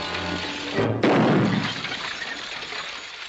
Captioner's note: gunshot